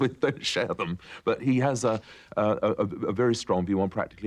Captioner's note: laughter